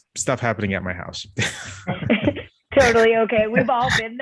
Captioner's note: laughter